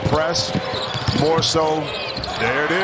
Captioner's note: crowd noise; cheers and applause